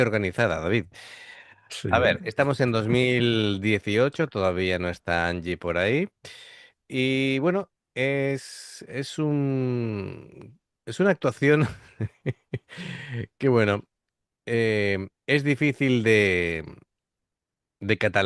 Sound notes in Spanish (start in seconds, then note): 11.6 risas